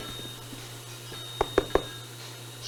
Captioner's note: knock knock knock